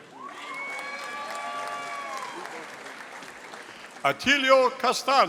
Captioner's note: audience applauding